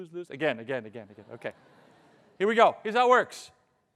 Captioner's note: audience laughing